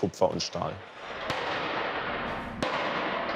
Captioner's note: resounding hammering